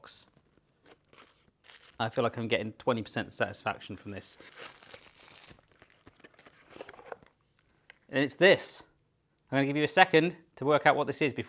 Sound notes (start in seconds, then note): 0.9 plastic rustling; 4.0 plastic rustling